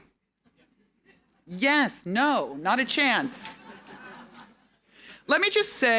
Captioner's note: audience laughing